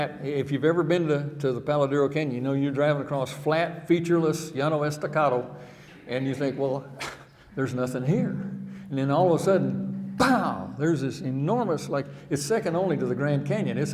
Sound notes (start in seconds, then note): 4.7 speaking in foreign language